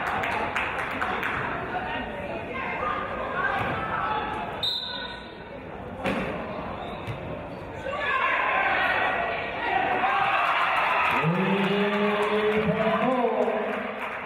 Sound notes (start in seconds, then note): 4.6 referee's whistle; 9.7 cheering and applause